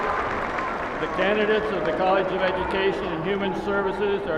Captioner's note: applauding